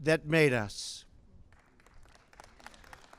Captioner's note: applause